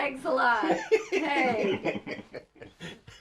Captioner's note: laughs